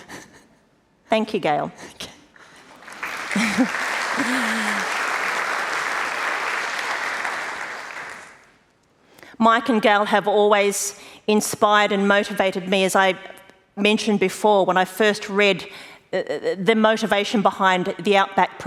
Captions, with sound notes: >> Thank you Gayle. >> Okay. [ Applause ] >> Mike and Gayle have always inspired and motivated me, as I mentioned before, when I first read the motivation behind the Outback